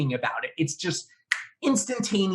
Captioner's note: fingers snapping